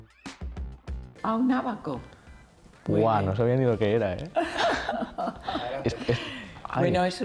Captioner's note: they laugh